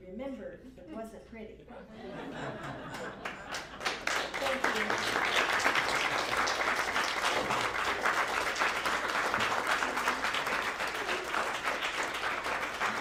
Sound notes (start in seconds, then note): 1.8 laughter; 5.3 applause